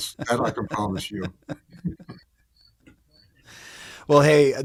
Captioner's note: laughing